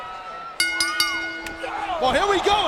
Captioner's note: bell dings